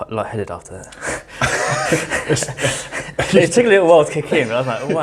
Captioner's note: laughs